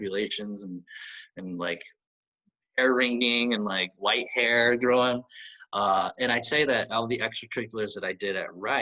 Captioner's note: ear ringing?